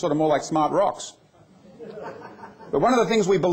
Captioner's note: laughter